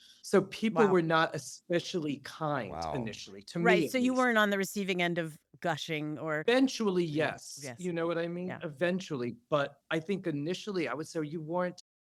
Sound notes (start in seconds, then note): none